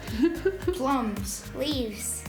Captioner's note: laughter